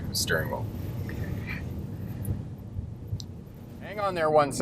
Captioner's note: laughs